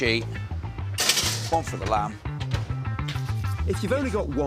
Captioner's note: tray clatters